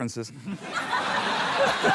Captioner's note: laughter